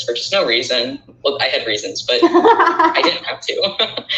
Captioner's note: laughing